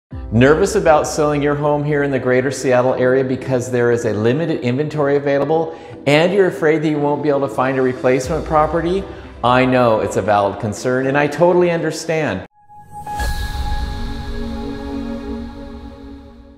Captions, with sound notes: - Nervous about selling your home here in the Greater Seattle area because there is limited inventory available and you're afraid that you won't be able to find a replacement property? I know it's a valid concern. I totally understand. (air whooshing)